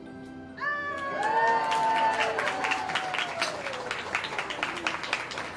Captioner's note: cheers, applause